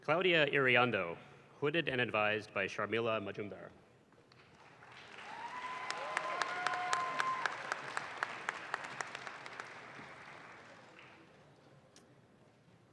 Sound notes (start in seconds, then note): 4.3 audience claps